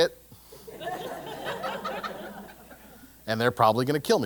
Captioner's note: laugh